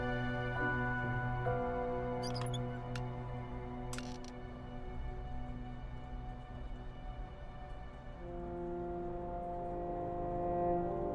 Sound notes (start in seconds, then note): 4.0 metal creaks; 8.5 eerie music